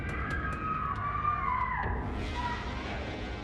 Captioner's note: rapid suspenseful music; Brynie shrieking; ominous music